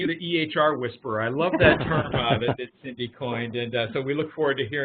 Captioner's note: laughing